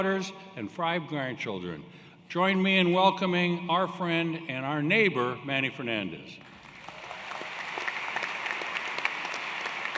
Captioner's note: cheers and Applause